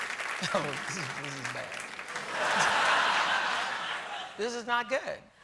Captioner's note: applause; laughter